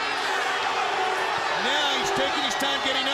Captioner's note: crowd chatter